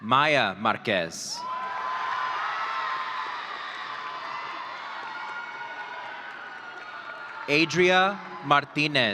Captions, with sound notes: Maya Marquez. (audience cheering) Adria Martinez.